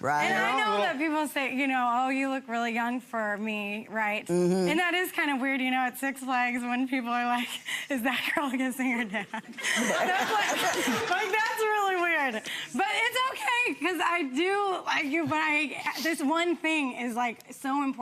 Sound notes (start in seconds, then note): 9.4 audience laughs